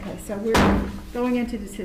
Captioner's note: gavel thud